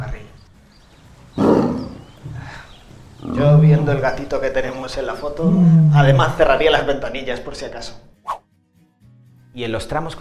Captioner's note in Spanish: Rugido